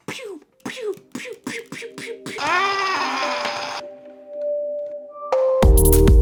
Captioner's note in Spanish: efecto de sonidos